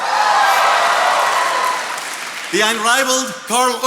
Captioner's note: attendees cheering and applauding